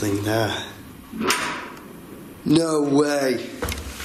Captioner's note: door clicks